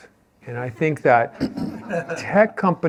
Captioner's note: laughter